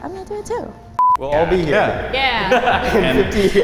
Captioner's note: beep